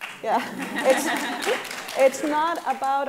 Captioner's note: applauding